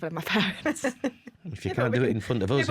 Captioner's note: laughter